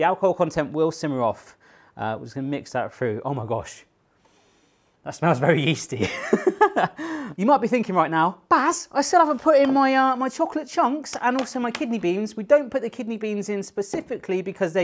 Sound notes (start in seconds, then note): 7.1 laughs